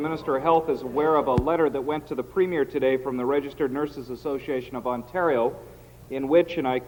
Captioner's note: some Applause